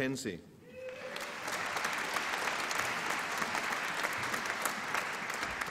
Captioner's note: applause and cheering